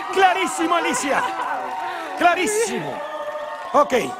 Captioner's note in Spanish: Gritos